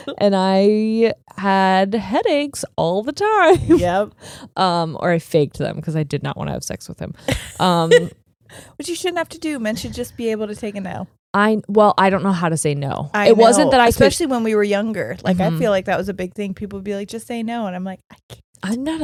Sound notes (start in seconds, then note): 7.3 giggling